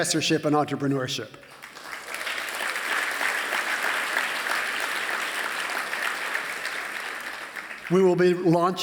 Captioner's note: applause